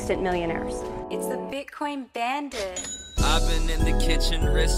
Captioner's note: bell dings